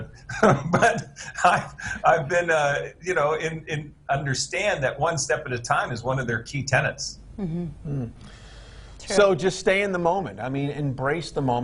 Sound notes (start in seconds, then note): 0.0 chuckles